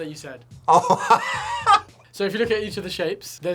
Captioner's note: laughs